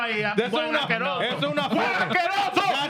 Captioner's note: speaking Spanish